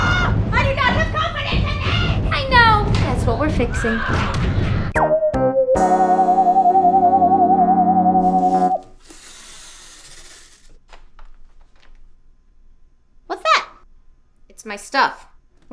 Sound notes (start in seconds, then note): 3.9 SFX: glorious combat